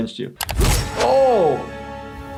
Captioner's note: sword whooshing